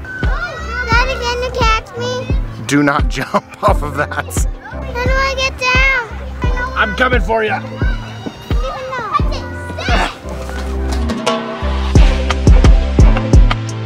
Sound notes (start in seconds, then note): 9.8 grunts; 11.1 upbeat music